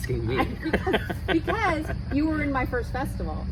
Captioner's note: laughs